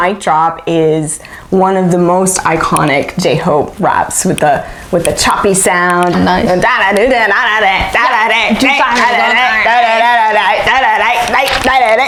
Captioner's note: imitates rapping